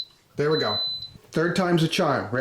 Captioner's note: beeps